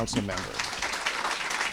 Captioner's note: applause